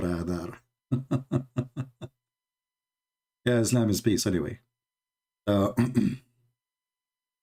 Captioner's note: Ketawa